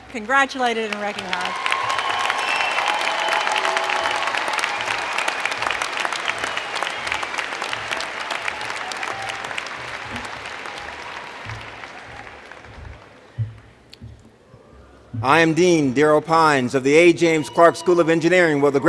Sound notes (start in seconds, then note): 6.6 cheers and Applause